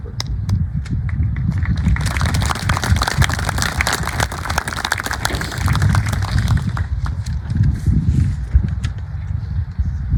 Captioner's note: applause